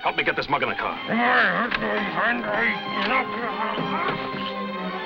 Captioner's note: Axford mutters; dramatic, orchestral music